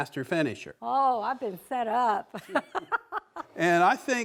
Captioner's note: laughs